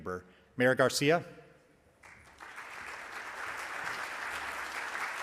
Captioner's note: audience applauds